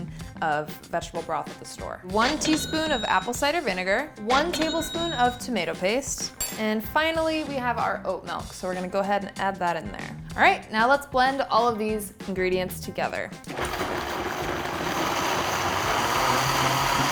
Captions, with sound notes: of vegetable broth at the store. (cash register chimes) One teaspoon of apple cider vinegar, (cash register chimes) one tablespoon of tomato paste. And finally we have our oat milk. So we're gonna go ahead and add that in there. Alright now let's blend all of these ingredients together. (blender mixes)